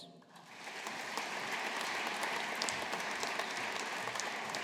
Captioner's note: audience applauding